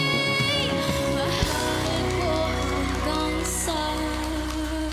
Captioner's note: applause